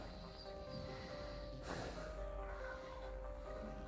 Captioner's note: deeply breathing